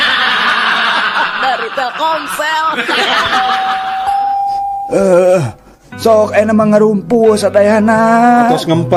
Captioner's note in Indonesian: tertawa